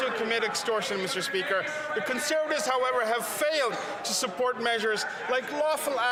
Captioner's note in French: voix de l'interprète